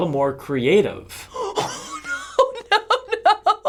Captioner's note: wheezing; laughing